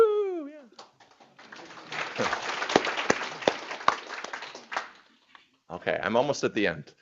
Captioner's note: applause